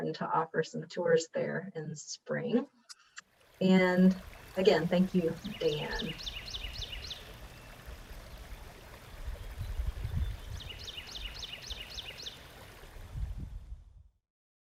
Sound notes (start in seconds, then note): 6.7 birds chirping; 6.7 water gurgling